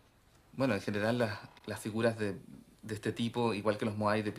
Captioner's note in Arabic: الصوت المنطوق باللغة الإسبانية